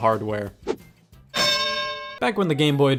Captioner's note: bells dings